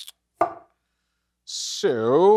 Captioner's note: cleaver thuds